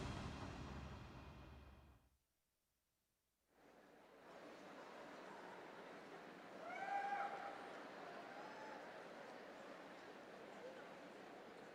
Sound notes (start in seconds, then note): 4.0 audience chattering